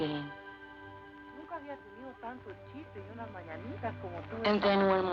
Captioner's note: speaking spanish